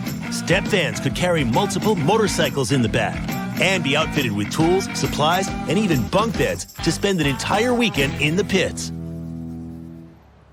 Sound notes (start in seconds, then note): none